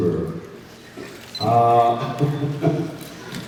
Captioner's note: laughs